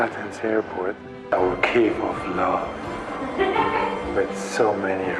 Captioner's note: laughing